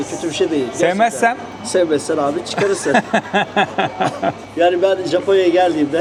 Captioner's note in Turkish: kahkaha